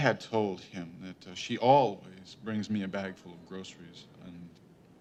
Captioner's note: none